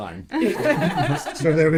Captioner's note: laughing